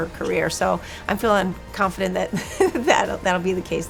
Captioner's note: laughs